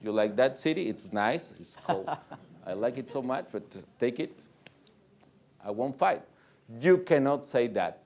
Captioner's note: laughter